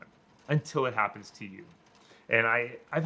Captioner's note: rain fades